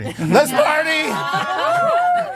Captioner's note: people laughing